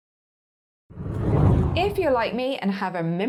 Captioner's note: air whooshing